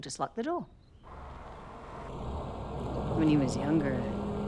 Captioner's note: car engine revving